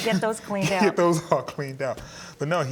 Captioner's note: laughing